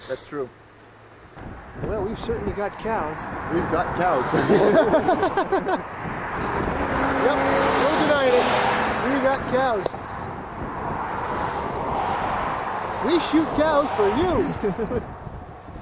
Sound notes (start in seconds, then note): 4.2 laughter